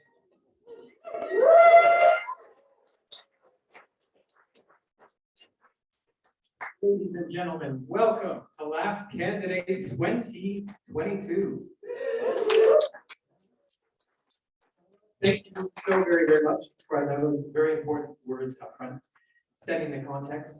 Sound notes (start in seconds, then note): 7.2 cheering